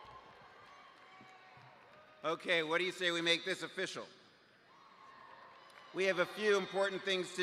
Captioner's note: cheers